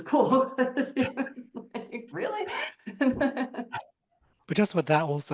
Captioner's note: laughs